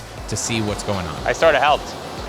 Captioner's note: tubes pumping